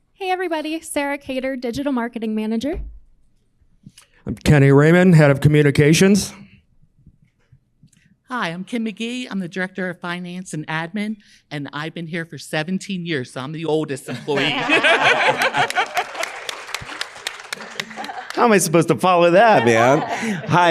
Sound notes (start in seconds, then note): 14.1 laughing; 14.4 staff and audience clapping